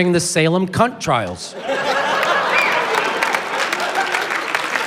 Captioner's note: applause, cheering